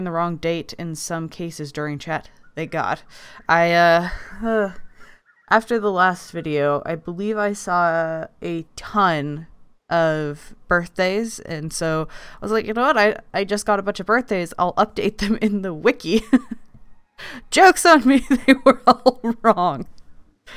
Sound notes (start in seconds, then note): 4.0 sigh; 18.0 laughing